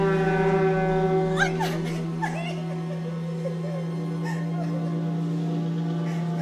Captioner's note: hear the crying